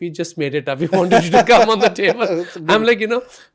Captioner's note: laughs